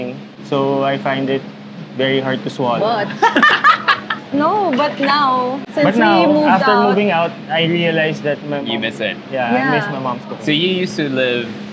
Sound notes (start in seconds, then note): 3.0 laughs